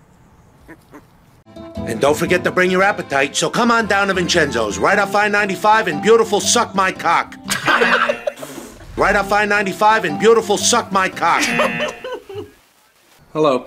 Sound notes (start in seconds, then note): 8.4 piglet snorts